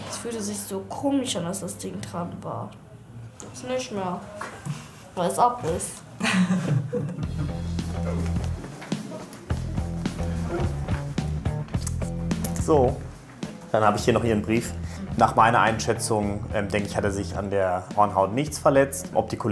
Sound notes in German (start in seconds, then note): 6.2 Lachen; 7.8 Lässige Musik